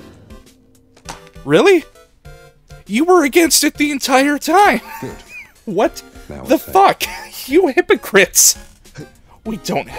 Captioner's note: wheeze